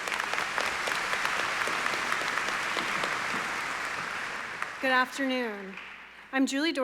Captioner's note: applause